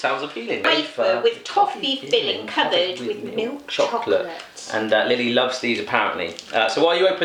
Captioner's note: coughs